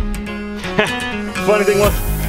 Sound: laughing

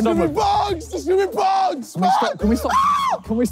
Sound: screaming

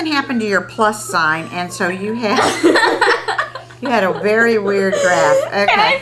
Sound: laughter

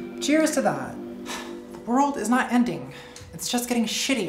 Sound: sighs

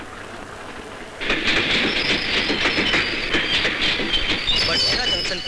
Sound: train rumbling

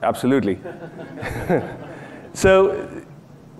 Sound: laughing

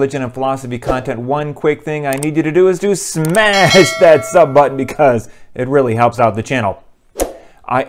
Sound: bell

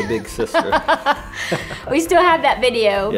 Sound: both laugh

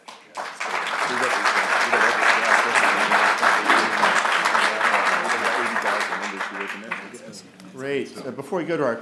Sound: applause

